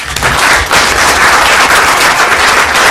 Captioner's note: applause